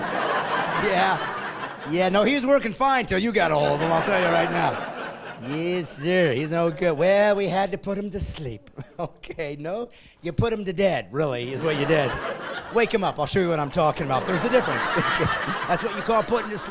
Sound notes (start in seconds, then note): 3.4 laughing; 8.5 laughing